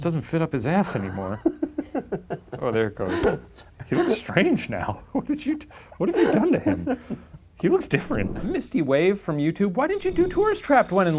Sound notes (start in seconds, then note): 0.8 laughs